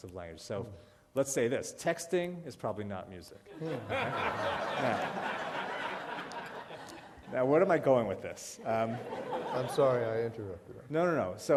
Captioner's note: laughter